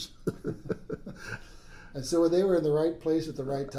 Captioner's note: laughs